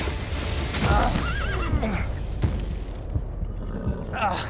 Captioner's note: groan, horse whinnies